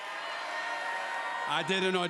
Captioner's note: crowd cheers